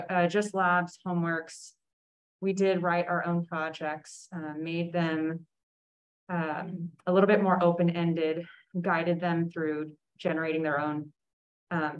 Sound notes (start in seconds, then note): none